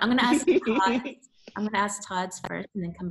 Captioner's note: laughs